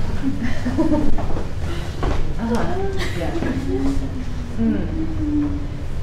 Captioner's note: participants laughing and murmuring